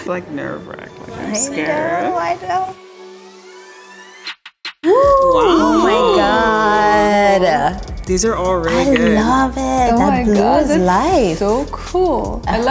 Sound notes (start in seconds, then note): 4.9 women exclaiming